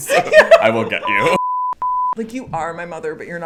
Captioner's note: electronic beeping